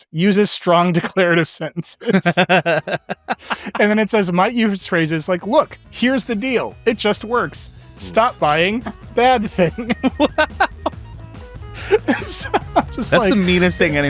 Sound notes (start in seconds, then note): 0.9 laughing; 10.1 laughing